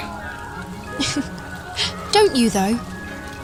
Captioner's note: giggle